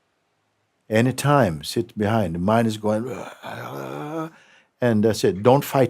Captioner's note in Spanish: imita un rugido